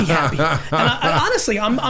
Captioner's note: Mark laughing